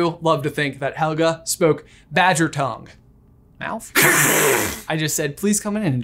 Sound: hisses

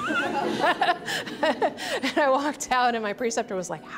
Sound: laughing

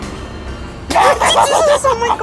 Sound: crazy laughing

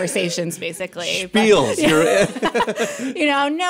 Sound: laughing

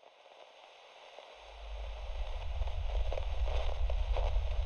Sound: static hisses

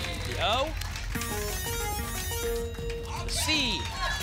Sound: futuristic sounds

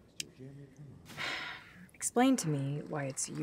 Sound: sighs

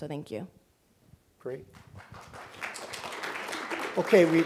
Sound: applause

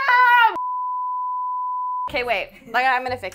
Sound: high pitched beep

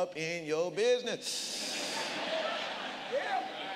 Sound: congregation laughs

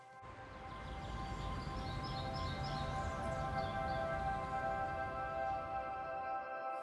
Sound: birds chirping

